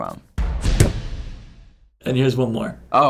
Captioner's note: hammering nail